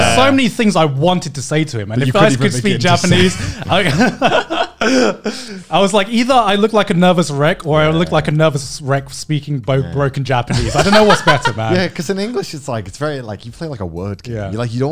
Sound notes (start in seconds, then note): 2.2 laughing